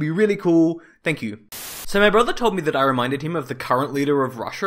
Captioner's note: Static